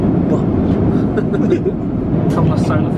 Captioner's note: laughs